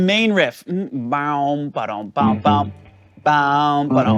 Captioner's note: making guitar sounds; guitar playing